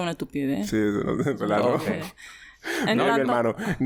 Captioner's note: laughs